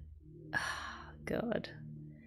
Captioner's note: sighs